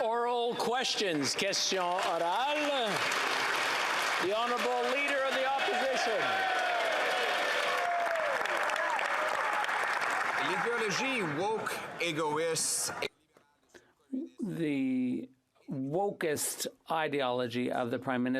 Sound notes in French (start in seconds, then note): 5.7 applaudissements